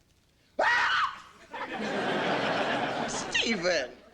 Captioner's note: both scream